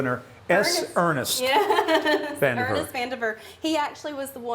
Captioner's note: laughs